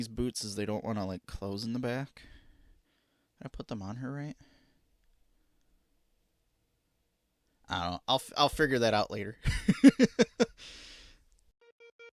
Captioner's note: laughing